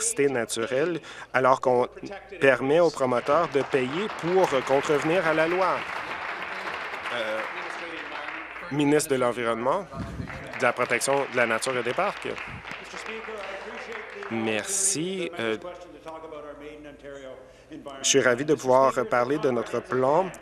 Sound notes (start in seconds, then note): 5.7 applause; 14.5 applause